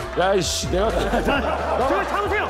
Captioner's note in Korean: 웃음소리